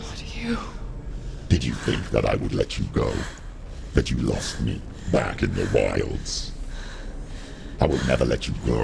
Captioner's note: deep male voice